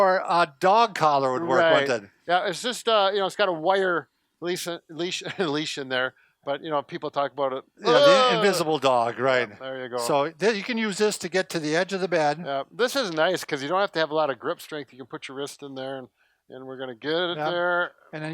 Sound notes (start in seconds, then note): 7.9 groans